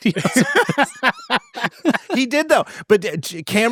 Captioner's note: attendees laughing